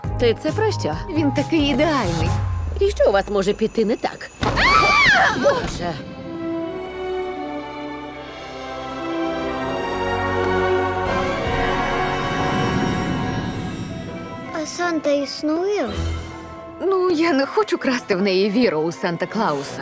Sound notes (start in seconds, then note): 4.5 screams; 5.5 whimsical music playing